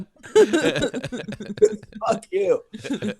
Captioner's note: laughing